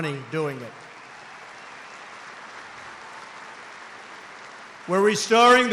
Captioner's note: applause